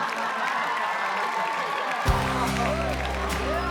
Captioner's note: audience laughing; audience applauding; upbeat pop music